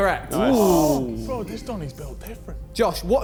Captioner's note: men cheering